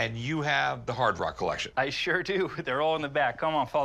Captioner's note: laughs